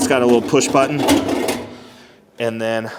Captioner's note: metal clattering